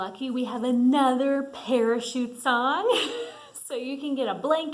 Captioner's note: laughs